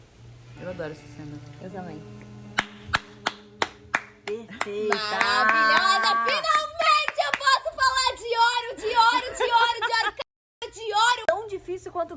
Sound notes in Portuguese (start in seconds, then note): 2.5 clapping hands; 8.8 laughing